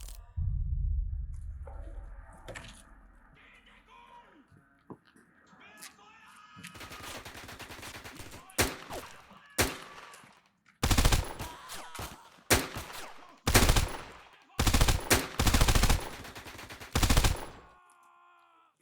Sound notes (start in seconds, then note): 0.0 crunching; 4.9 shouting in German; 6.7 gunshots; 8.7 agonized screaming; 10.8 gunshots; 12.1 agonized screaming; 13.5 shouting in German; 16.4 gunshots